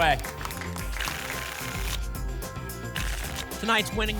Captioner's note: tickets shuffling